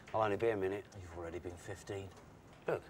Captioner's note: none